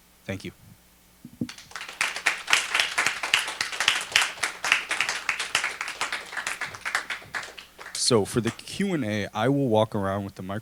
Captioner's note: applause